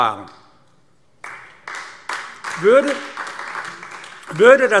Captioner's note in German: Beifall AfD